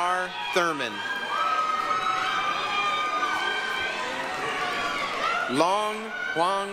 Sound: applause, cheering

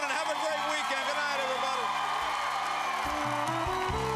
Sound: cheers and applause

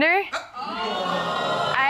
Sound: audience exclaims

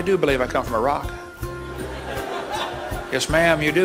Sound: audience laughs

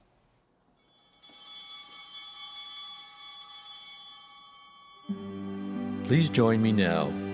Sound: chimes ringing

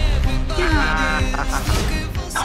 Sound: laughs

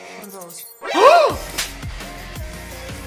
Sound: gasps

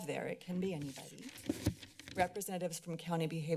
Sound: flips papers

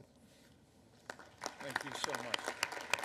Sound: applause

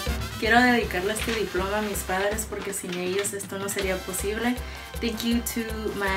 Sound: speaks in foreign language

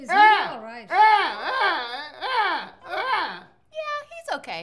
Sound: groaning

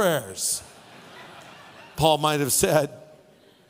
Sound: audience laughing

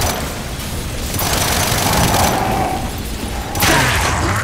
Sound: gun fires

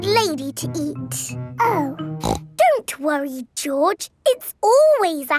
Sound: snorts

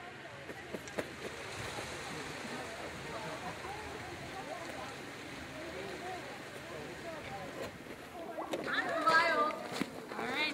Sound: children walking and chatter

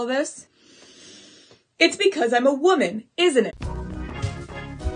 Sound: angry breath

